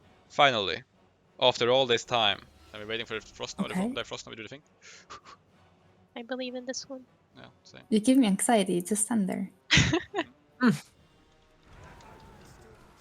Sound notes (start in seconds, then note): 9.7 haha